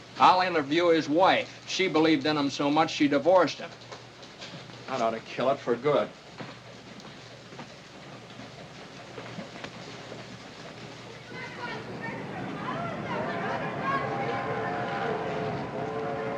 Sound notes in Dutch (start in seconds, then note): 11.0 kinderen schreeuwen; 13.0 treinfluit blaas